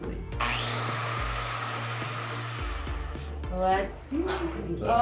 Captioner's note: saw whirring